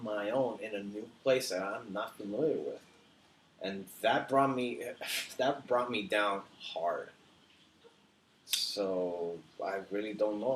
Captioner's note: scoffs